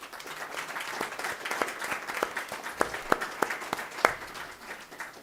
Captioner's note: applause